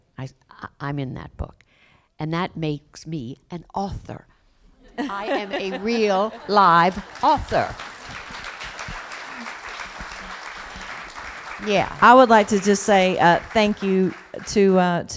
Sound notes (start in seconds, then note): 4.8 laughter; 9.0 applause